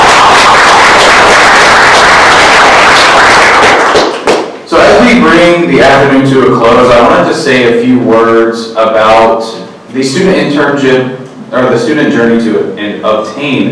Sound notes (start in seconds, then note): 2.8 clapping